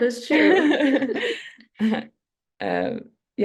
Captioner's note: laughter